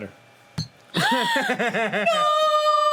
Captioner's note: laughing